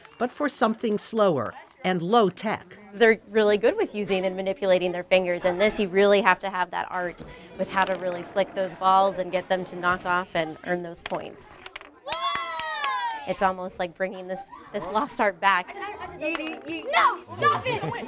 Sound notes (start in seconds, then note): 12.0 kids cheer